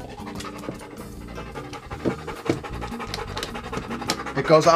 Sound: dog panting loudly

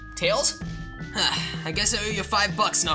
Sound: sigh

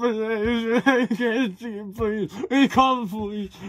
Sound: man crying

